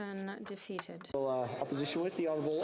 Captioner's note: speaking French